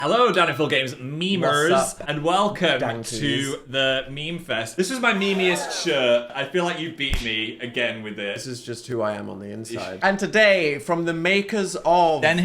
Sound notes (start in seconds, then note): 5.2 people gasping